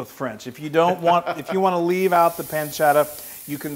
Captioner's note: laugh